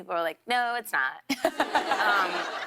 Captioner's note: laughter